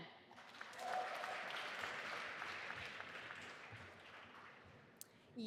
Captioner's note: audience applauding